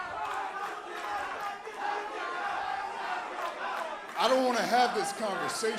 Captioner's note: crowd cheering